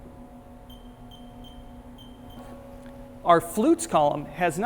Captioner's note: chirping sounds